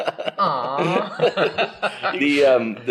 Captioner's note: laughs